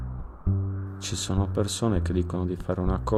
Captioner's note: in Italian